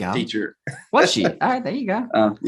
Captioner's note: chuckles